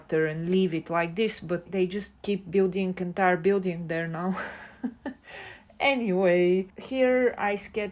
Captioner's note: haha